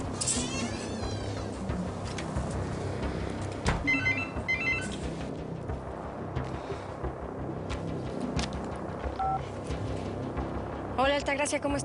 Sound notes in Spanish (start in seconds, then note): 3.8 Suena un celular